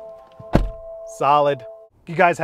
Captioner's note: door slams